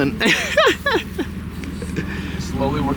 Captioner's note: laughing